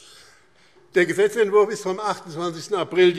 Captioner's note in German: none